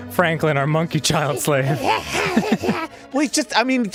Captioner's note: monkey child slave noises